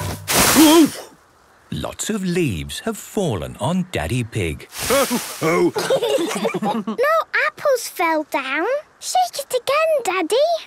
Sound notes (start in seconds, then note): 4.8 laughter